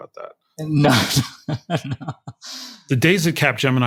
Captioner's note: laugh